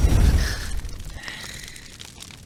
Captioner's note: rasping hiss